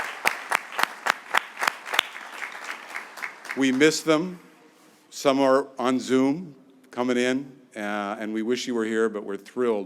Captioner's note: applause